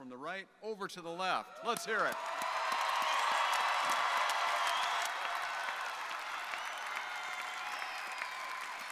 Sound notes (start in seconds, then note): 1.5 crowd cheering; 1.6 crowd applauding